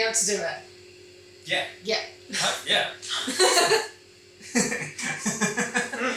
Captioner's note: they both laugh